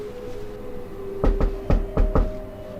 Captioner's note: knocking